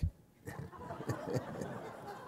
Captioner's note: laughter